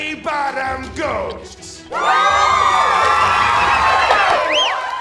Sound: cheering

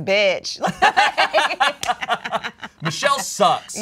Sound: both laugh

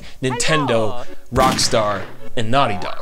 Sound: gunshot

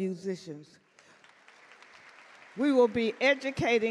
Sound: audience clap

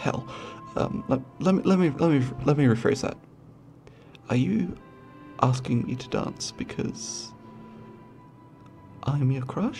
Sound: stuttering

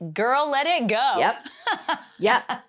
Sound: laughs

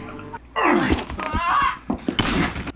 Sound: Madman grunting; yelling

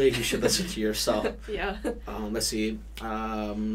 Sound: laughs

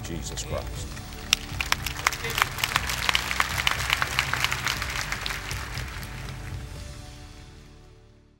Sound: applause

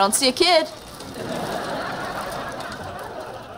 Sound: laughing

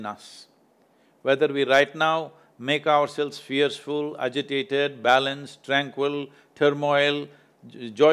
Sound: fearful

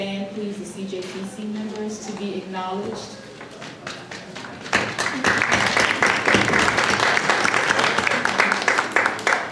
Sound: applause

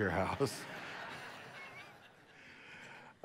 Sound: congregation laughs; laughs

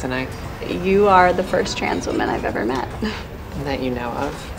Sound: snigger

